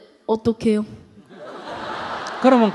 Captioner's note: audience Laughter